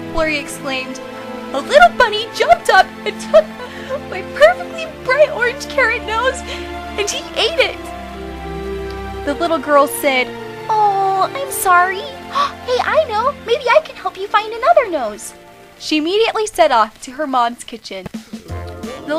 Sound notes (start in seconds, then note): 12.2 gasps